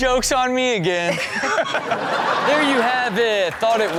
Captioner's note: crowd laughing